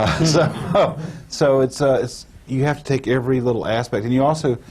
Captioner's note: laughter